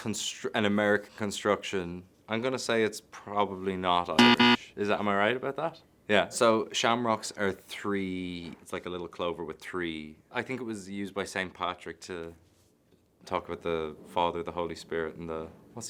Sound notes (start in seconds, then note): 4.2 buzzer buzzing